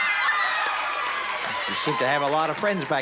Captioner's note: audience cheering